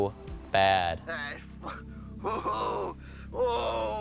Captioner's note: grunting